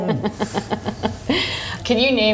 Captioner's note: laughs